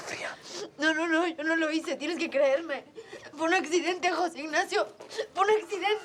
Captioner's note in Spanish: Sollozos